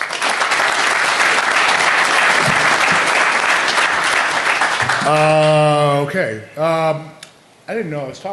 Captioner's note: applause